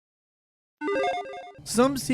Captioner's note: logo beeps